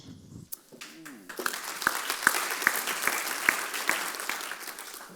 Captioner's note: audience applause